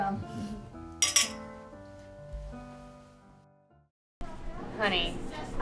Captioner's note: glasses clinking; people chattering